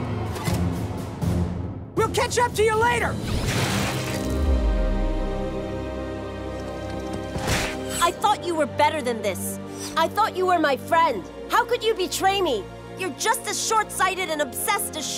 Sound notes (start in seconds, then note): none